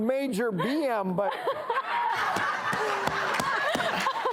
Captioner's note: audience laughs